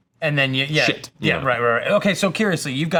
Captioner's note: blows raspberry